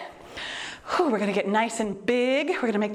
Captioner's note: exhales deeply